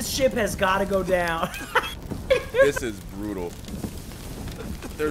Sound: laugh

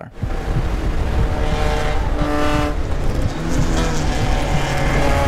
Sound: car racing noises

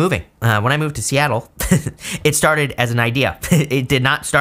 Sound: chuckling

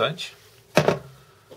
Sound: thud

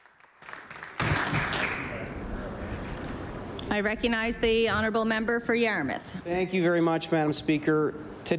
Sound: applause

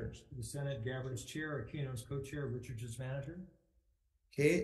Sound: none

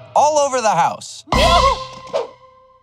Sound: yelps

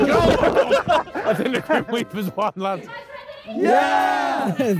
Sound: men laughing

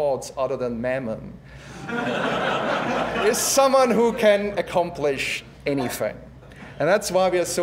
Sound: laugh

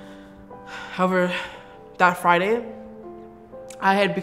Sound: sigh

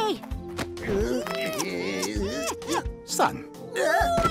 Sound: kissing; Scrooge groaning

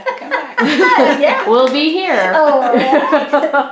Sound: laughs

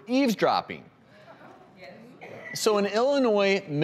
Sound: audience murmurs

